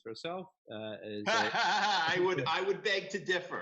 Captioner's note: laughs